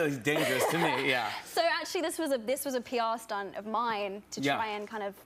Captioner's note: laughs